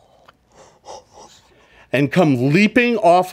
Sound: player quietly sobs

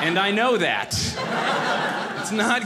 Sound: audience laughing

